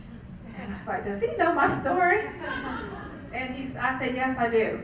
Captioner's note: laugh